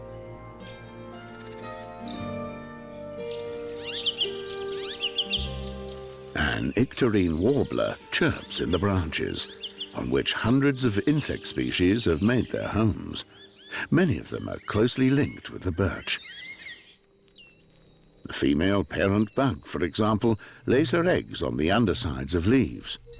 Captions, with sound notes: [chirps] An icterine warbler chirps in the branches, on which hundreds of insect species have made their homes. Many of them are closely linked with the birch. The female parent bug for example, lays her eggs on the undersides of leaves.